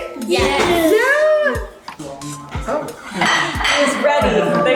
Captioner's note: kids cheering